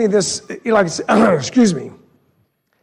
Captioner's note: clears throat